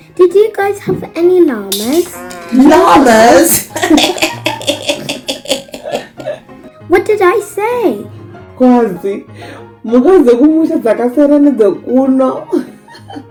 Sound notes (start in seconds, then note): 5.2 laugh